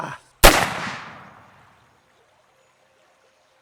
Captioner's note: Two Moons speaking Native American language; gun firing